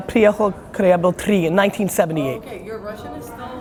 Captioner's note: speaks Russian